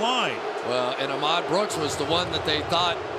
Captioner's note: booing